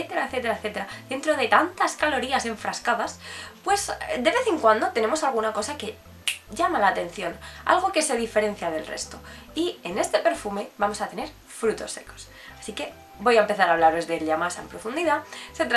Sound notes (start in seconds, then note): 6.2 snap fingers